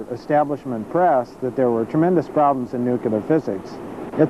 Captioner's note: none